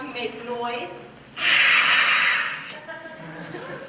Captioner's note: roars